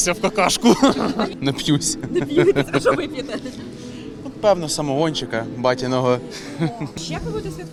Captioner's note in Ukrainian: сміється